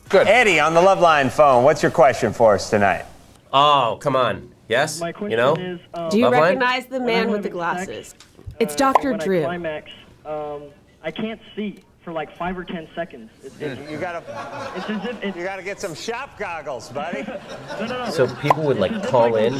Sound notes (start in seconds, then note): 13.6 audience laughing